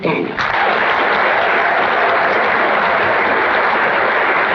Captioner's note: audience applauding